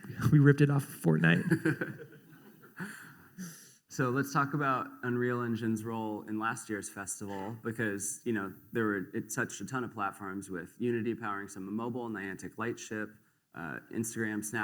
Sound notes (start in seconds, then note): 1.3 laughter